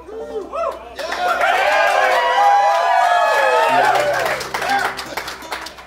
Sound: applause - Cheering

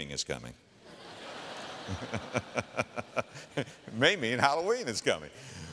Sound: audience laughter

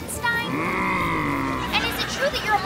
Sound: moaning

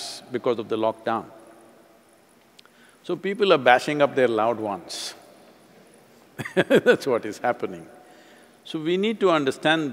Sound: laughs

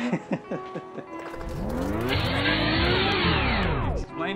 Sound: laughing

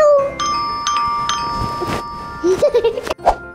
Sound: door bell rings

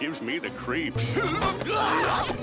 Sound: screaming

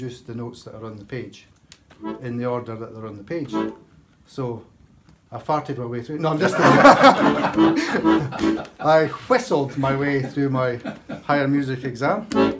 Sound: laughs

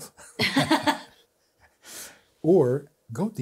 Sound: both laughing

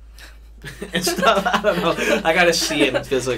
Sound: both laugh

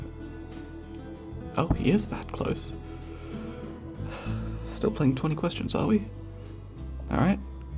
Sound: sighs

